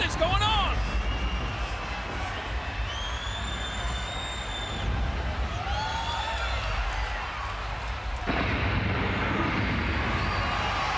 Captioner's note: applause